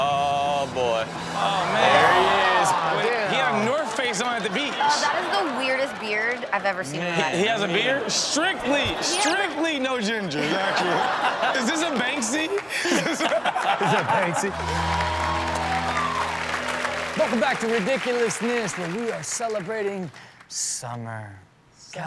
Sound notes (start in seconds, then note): 13.2 audience laughs; 15.0 audience cheers